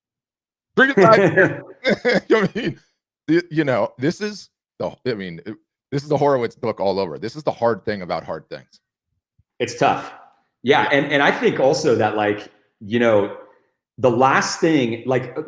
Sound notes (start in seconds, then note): 0.9 both laughing